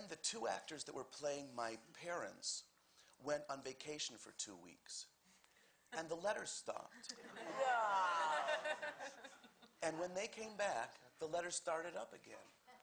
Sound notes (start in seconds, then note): 7.1 audience Laughter